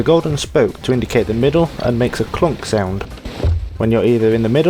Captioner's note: clunk sound